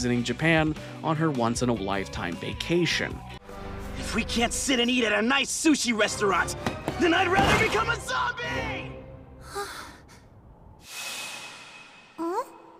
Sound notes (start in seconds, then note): 9.4 sighing